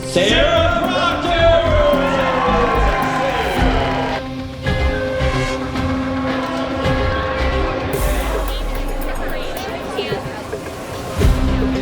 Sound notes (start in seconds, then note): 2.2 crowd cheers; 4.2 exciting music; 8.4 crowd chatters